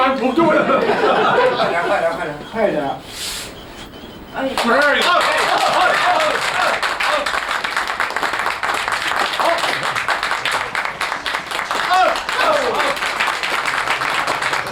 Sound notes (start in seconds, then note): 1.8 non-english speech; 5.3 applause